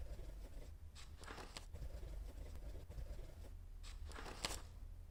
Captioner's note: A pen makes a scribbling sound as a person writes on a notepad